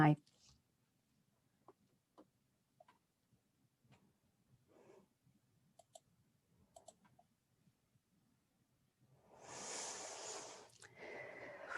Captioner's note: silence